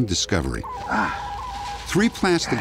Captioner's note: grunting